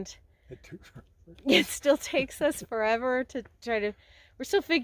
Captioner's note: laughter